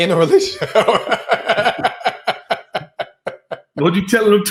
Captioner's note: laughs